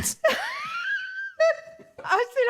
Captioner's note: laughs